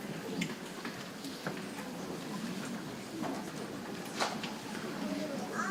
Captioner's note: people chattering softly